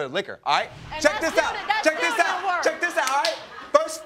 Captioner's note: audience laughs